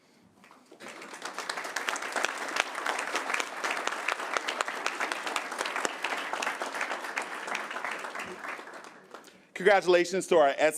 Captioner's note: applause